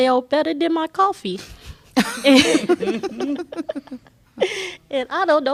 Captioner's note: laughter